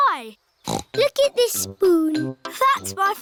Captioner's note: snorts